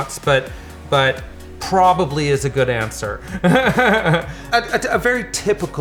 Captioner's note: laughing